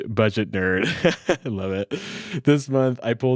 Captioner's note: laughing